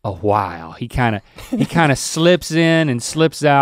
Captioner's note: chuckles